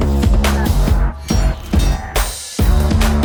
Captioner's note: swords clashing; upbeat instrumental music continues